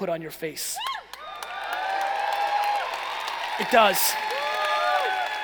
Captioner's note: cheering and applauding